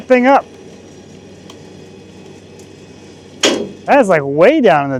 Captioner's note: trailer whirring